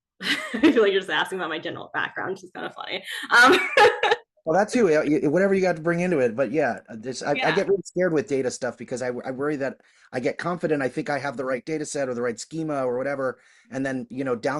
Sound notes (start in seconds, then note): 0.2 laughs